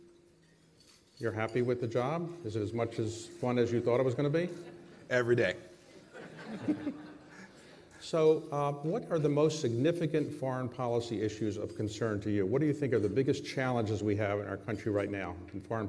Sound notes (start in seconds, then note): 6.0 laughter